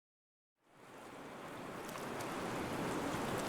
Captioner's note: seaside waves